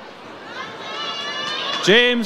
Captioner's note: audience cheers